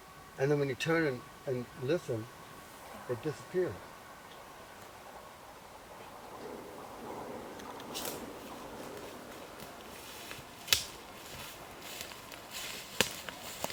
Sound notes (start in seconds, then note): 11.5 rustles